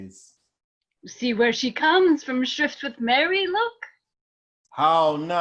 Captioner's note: nurse speaking